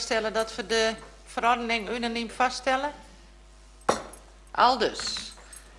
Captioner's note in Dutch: voorzitter klopt met hamer